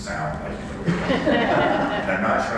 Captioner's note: laughter